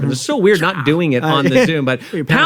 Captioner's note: chuckles